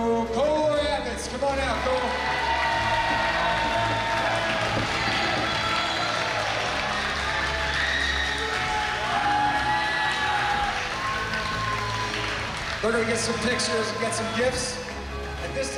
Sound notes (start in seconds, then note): 1.3 cheering